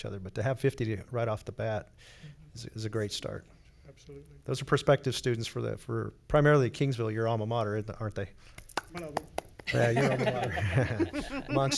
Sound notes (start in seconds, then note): 8.5 person clapping; 9.7 laughs